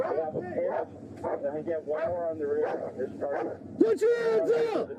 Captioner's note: radio chatter